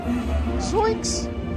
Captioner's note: In Shaggy's voice